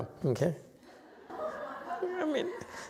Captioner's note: laughter